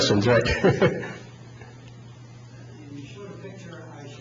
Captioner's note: laughs